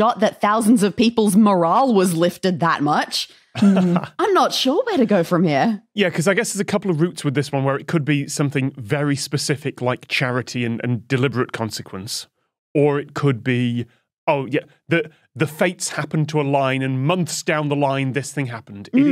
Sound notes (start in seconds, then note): 3.5 chuckles